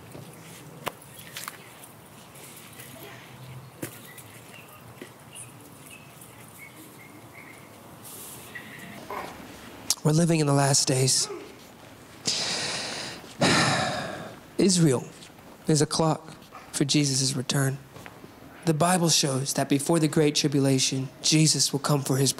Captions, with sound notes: We're living in the last days. (sighing) Israel, there's a clock for Jesus' return. The Bible shows that before the great tribulation, Jesus will come for his bride. We will be taken up into heaven, and there will be a seven-year feast for us believers.